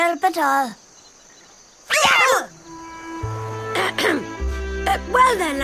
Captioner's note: startled yelling